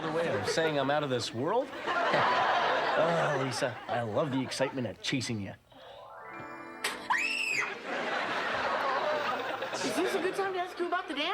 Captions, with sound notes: "You saying I'm out of this world? Hehe." "Oh Lisa, I love the excitement of chasing you." (Screams) "Is this a good time to ask you about the dance?"